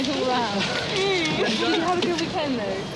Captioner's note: chuckling